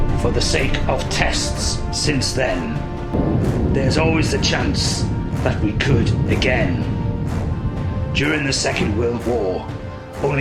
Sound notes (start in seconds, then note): 6.7 thunder rumbling